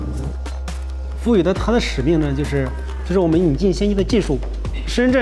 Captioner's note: speaking in Chinese